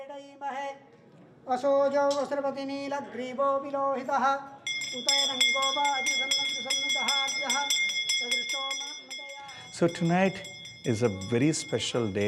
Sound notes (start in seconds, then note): 7.2 chanting; 9.1 chanting